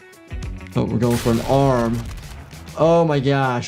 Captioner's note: gun fires